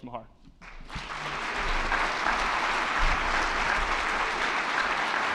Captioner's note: attendees clapping